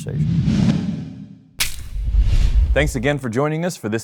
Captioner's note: air whooshing